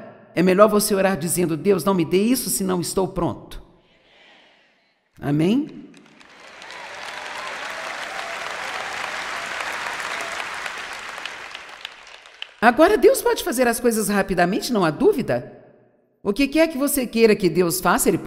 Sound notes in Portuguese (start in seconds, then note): 5.8 audiência aplaude